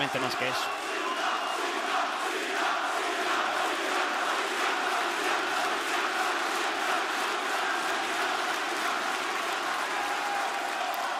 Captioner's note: applause